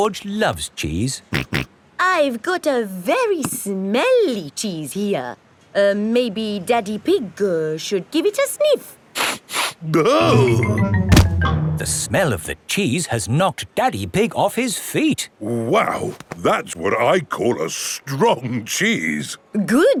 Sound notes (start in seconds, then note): 1.3 snorts; 9.3 sniffs and groans